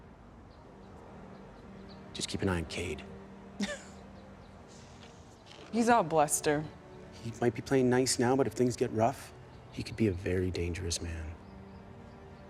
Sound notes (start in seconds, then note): 3.6 laughs